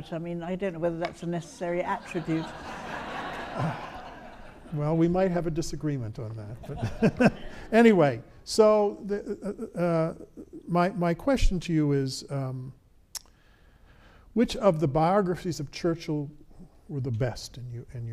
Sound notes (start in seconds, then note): 1.6 audience laughs; 7.3 laughs